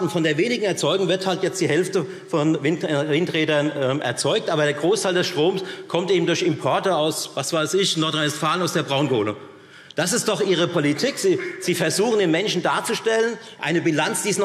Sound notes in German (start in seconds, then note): none